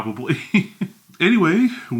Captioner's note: chuckles